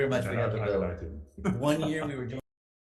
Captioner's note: members speak faintly